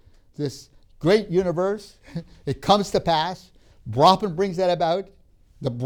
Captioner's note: laughs; laughs